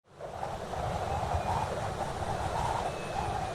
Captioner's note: wind blowing